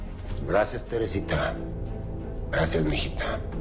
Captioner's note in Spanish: none